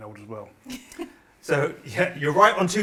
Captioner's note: laughs